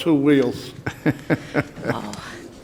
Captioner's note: chuckling